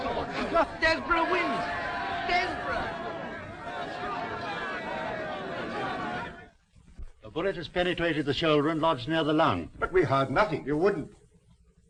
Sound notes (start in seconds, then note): 3.8 all chattering